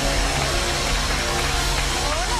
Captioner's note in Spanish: aplausos